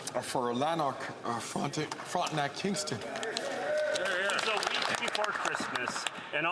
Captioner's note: some Applause